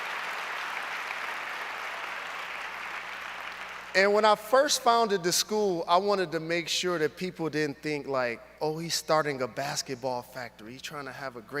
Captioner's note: applause